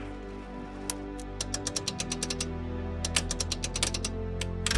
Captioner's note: typewriter clicks